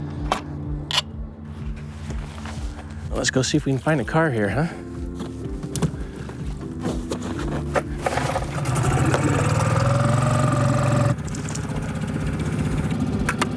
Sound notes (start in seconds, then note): 1.0 screw scratches; 8.1 engine growls; 11.2 engine purrs; 13.4 clip clicks